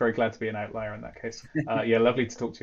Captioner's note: laughs